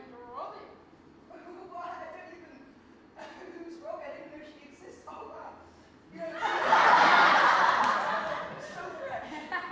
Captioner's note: audience laughter